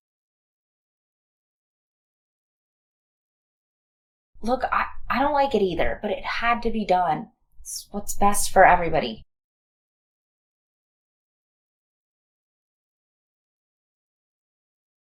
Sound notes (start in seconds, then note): 0.2 long silence; 9.7 long silence